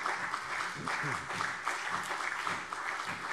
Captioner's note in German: Beifall CDU